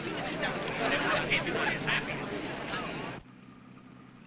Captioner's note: crowd talking